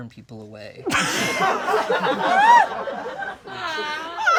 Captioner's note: all laugh